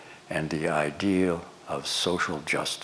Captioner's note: none